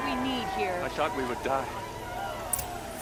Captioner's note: cheering